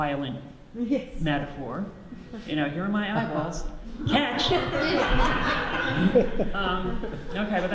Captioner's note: audience laughs